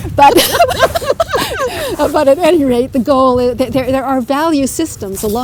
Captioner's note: laughter